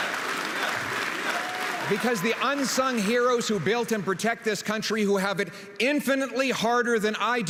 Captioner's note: applause and cheering; Crowd chanting "Pierre"; rhythmic clapping